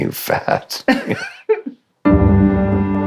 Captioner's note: both laughing